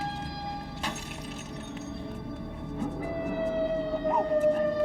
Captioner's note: bottle breaking